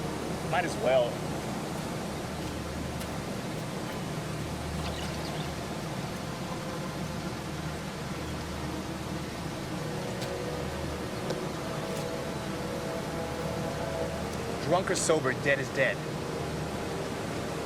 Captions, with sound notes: - Might as well. (liquid pouring) (tap) - Drunk or sober, dead is dead.